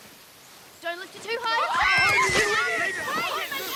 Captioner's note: all scream